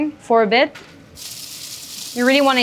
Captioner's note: steak sizzling